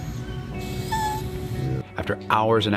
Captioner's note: Maple whines